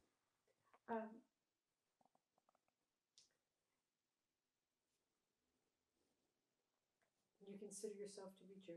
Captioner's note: pauses 6 seconds